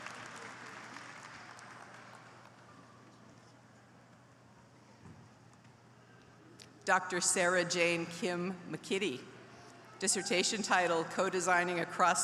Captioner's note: applause